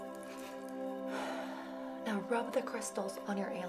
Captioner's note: sighing